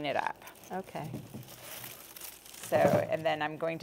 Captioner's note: garlic rustling